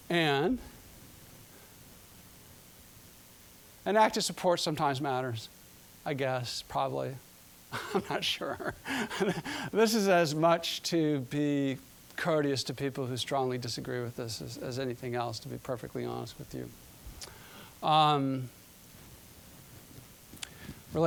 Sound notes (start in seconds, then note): 7.8 laughing